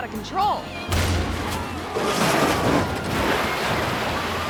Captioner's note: cars crashing